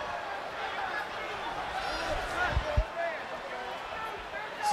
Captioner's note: crowd chatter